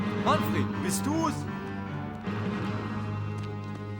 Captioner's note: speaking german